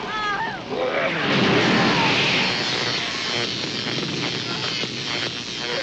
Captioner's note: flames blast electrical buzzing